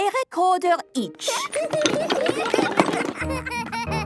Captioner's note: laughter